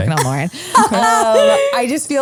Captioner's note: laughs